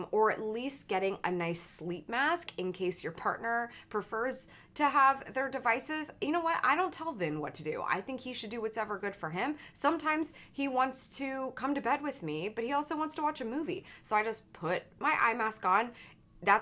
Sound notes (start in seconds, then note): none